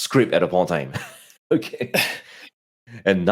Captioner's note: laughing